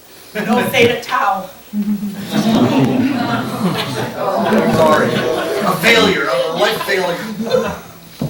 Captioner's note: laughter